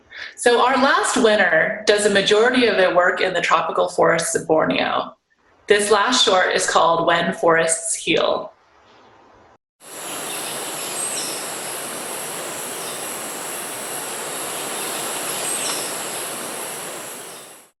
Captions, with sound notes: So our last winner does a majority of the work in the tropical forests of Borneo. - This last shot is called, "When Forests Heal." (wind whooshing) (birds chirping)